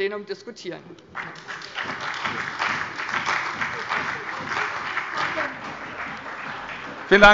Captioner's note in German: Beifall bei dem BÜNDNIS 90/DIE GRÜNEN und bei der CDU